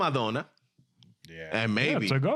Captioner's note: speaking In Foreign Language